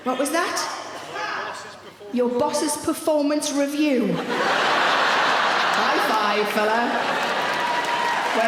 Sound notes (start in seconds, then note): 4.1 audience laughing